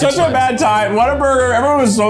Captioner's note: laughing